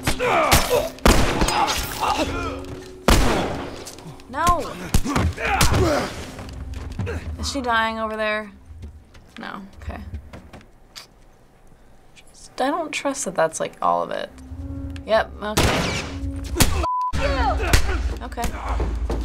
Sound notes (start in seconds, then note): 0.1 struggling, choking noises; 2.3 dying croak; 3.1 gunshot; 4.4 punches land; 4.7 Joel grunts; 15.6 gunshot; 16.4 Joel grunts